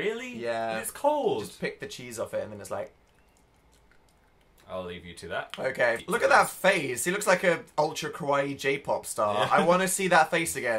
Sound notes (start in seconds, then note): 2.8 chewing